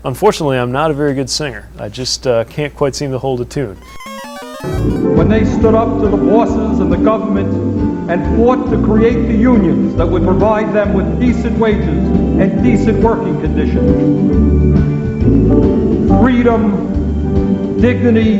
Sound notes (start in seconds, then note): 4.8 hippie voiceover, humming